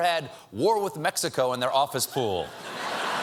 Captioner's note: laughter